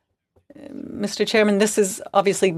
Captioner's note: speaking French